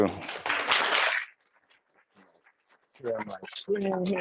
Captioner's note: audience applauds